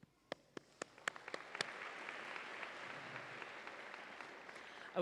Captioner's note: audience applauds